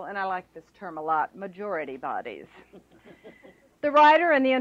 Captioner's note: laughter